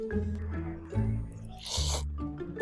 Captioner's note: inhalation